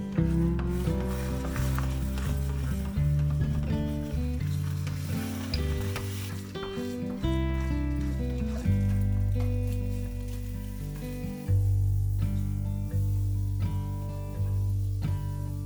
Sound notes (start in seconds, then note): 5.2 pan sizzling